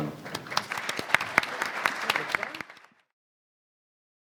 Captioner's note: applause